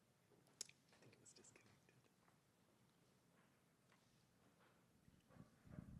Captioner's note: interpreter speaking faintly